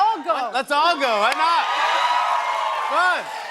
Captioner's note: cheers and applause